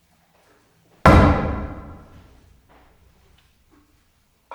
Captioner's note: pole thuds